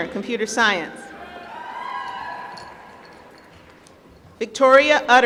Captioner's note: applause